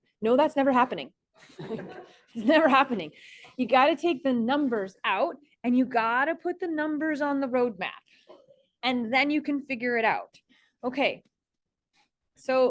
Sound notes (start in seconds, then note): 1.4 students laugh